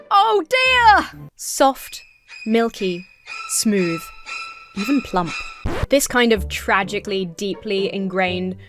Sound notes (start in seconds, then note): 4.8 record scratches to a halt